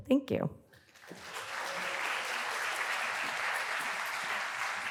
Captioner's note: applause